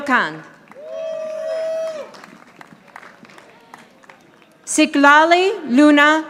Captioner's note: audience applauding